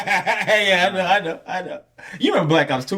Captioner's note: laughing